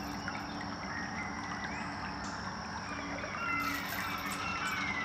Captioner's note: birdsongs, seagulls, a babbling brook